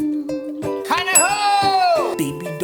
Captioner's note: shouting